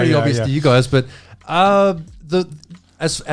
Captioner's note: laughing